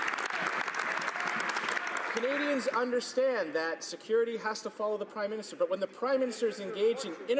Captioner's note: some Applause